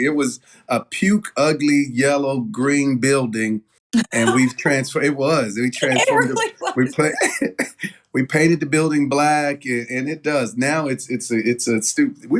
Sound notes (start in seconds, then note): 8.0 laugh